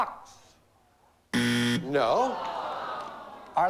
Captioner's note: buzzer